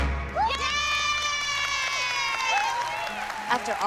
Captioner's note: cheering